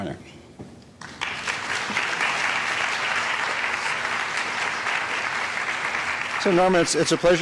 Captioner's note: applause